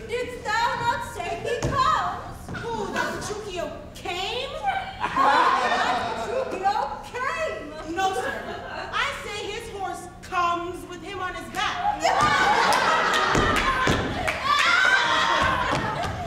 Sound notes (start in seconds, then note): 4.8 audience laughs; 11.8 group laughing; 11.9 audience laughs